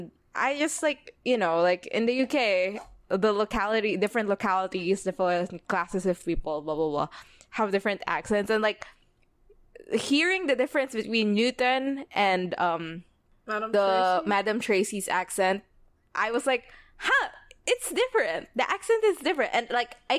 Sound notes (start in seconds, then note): none